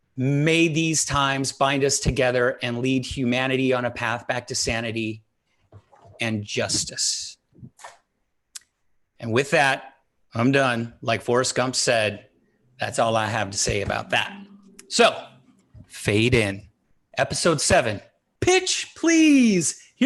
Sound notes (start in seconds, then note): none